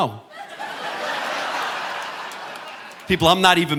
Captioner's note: audience laughing